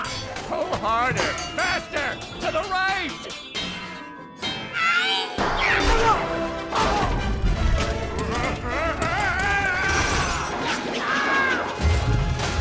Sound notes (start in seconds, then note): 8.2 yells